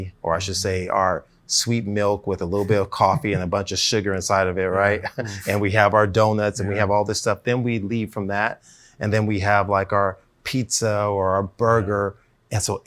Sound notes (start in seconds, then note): 5.1 chuckles